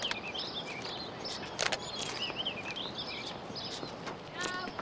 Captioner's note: birds chirping